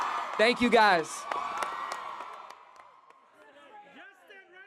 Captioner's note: attendees clapping